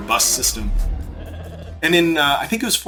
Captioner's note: sheep bleats